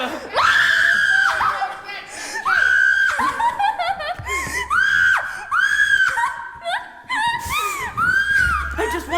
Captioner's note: crying